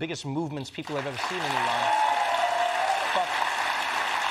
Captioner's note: cheering and applause